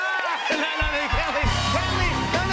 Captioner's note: cheers and applause